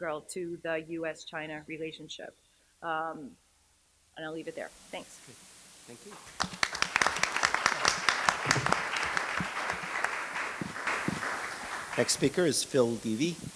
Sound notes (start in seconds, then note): 6.1 applause